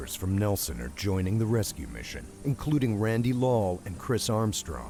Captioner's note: voiceover